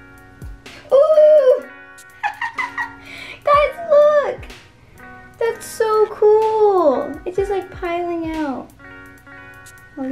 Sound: laughter

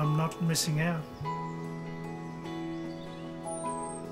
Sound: birds chirp

